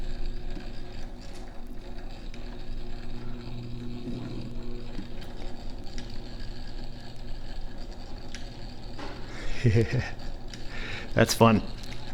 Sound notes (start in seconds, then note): 5.3 whirring & clicking increases; 9.2 chuckles